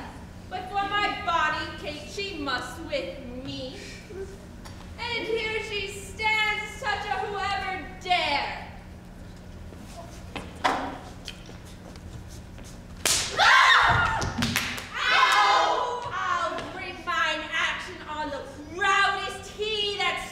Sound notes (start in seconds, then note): 12.9 group cries out; 13.0 whip snaps